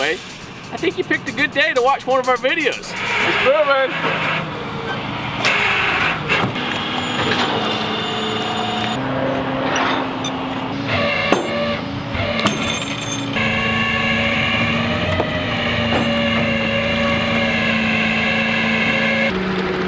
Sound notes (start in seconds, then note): 5.4 engine roaring